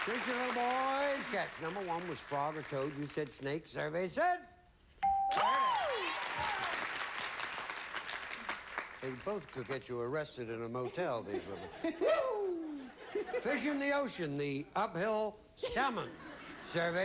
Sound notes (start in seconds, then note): 5.3 audience applauding; 10.8 audience laughing